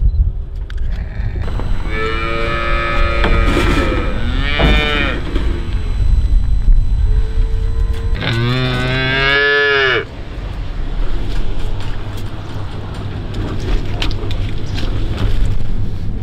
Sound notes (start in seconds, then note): 0.8 calves crying